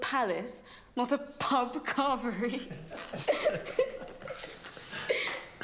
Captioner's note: laughing; laughs